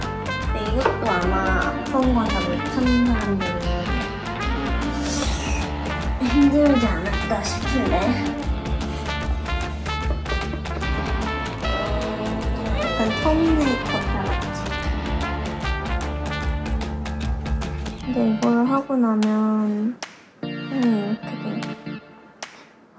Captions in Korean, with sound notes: 이것도 아마 다른 사람들은 아플껄.. (우리 엄마는 소리 지름) 그런데 이걸 하고나면... 손이 이렇게..